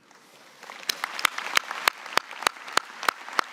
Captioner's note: applause